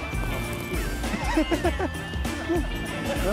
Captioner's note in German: Mann lacht